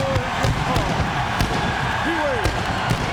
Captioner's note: audience cheers; pyro bangs